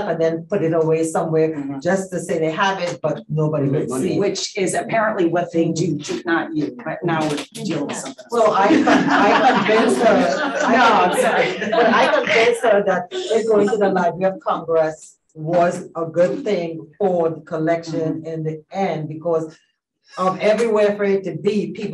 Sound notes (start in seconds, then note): 7.8 audience laughing